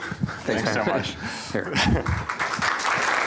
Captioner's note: applause; laughter